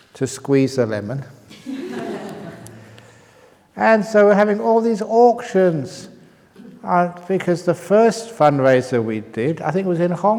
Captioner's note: laughs